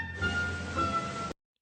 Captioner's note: the sounds of the town come up